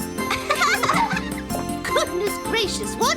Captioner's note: laughing